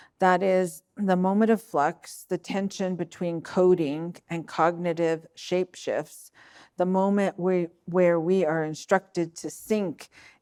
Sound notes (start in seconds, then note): none